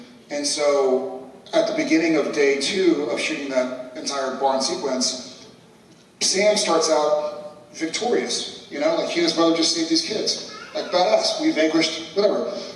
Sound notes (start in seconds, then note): none